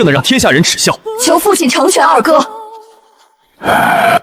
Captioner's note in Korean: 한숨